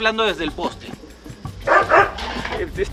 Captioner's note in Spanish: perros ladrán